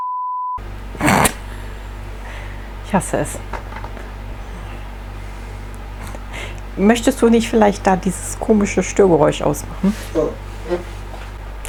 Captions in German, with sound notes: *lacht* Ich hasse es. Möchtest du nicht vielleicht da dieses komische Störgeräusch aus machen?